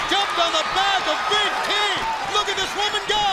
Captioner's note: crowd chatter